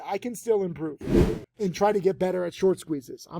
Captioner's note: video whooshing